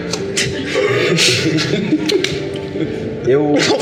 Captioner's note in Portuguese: risos